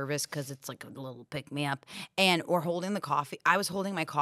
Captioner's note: none